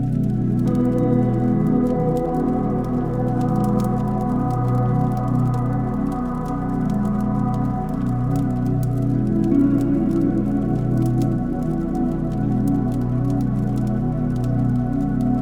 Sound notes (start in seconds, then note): 0.7 fire crackling; 0.7 light music continues